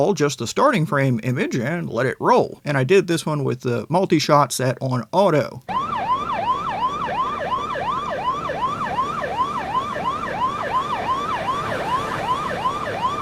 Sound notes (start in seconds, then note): 5.6 siren blaring